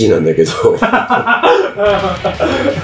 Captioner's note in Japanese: 笑い声